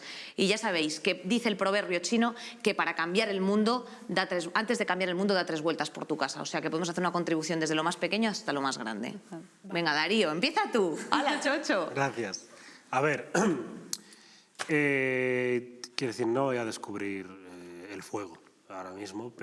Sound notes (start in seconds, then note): 13.3 clears throat